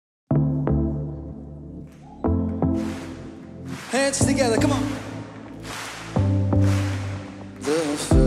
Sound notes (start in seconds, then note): 0.3 gentle music; 1.8 audience clapping